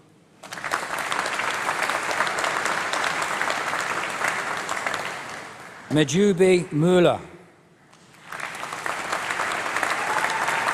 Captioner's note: applause